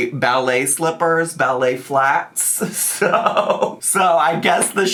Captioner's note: laughs